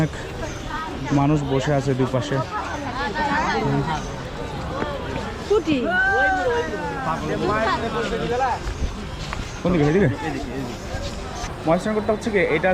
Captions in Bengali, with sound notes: অনেক মানুষ বসে আছে দুপাশে। (people talking in background) মহাস্থানগড়টা হচ্ছে কি,